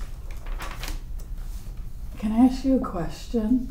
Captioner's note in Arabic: حفيف الأوراق